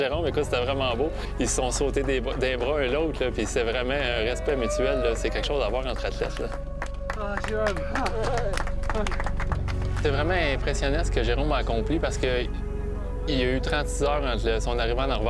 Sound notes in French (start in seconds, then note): 7.5 applaudissements